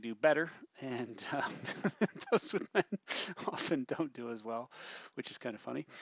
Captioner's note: chuckling while speaking